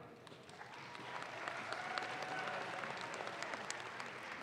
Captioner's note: audience claps